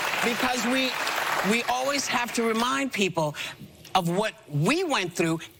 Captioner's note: applause